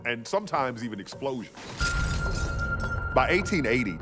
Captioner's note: glass tinkling